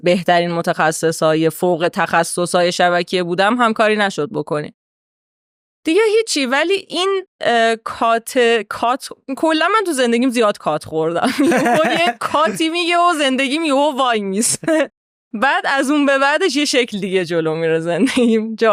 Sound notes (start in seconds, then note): 11.3 laughs